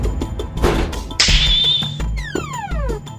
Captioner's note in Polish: Pstryknięcie palcami